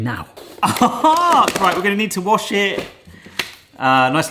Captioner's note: laughs